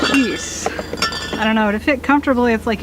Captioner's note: bottle noises